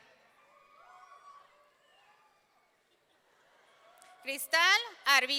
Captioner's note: audience cheering